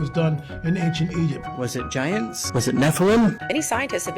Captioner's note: boosted voice